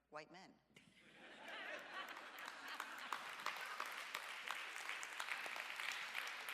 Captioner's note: audience laughs and applauds